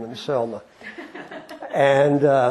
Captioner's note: laughter